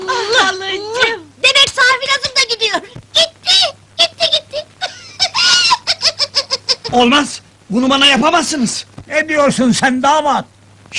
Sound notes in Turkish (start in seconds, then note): 4.4 tavuk sesi̇ çikararak ağlar